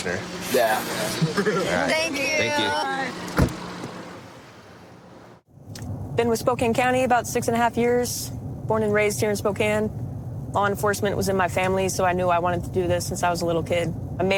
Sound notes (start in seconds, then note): 0.5 laughs; 2.6 car door closes